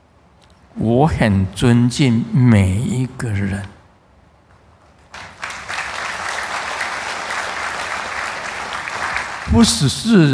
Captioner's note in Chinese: 眾鼓掌